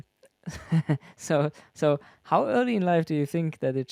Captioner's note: laughs